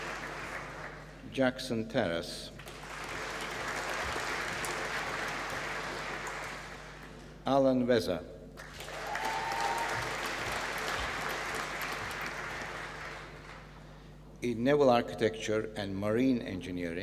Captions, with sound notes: Jackson Terras. (APPLAUSE) Alan Vezza. (APPLAUSE) in Naval Architecture and Marine Engineering.